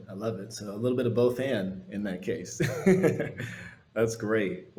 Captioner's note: laughs